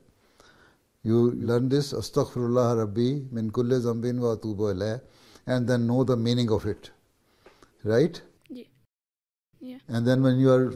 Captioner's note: Arabic